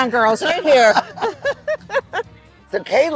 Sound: both laughing

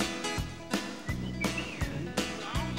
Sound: whistles

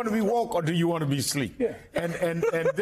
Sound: laughter

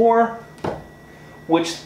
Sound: thuds

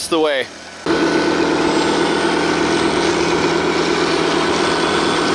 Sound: machine engine roaring

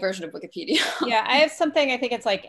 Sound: chuckles

